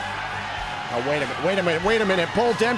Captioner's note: cheers & applause